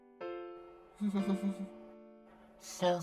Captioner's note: giggles